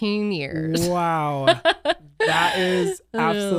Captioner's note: laughs